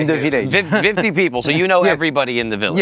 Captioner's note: chuckles